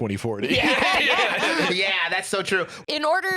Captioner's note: laugh